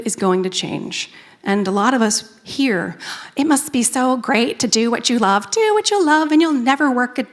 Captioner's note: sing-song voice